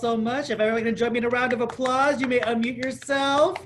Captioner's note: applause